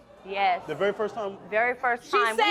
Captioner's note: crowd reacting